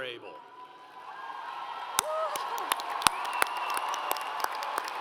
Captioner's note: audience applauds